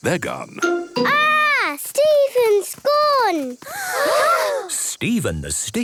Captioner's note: gasps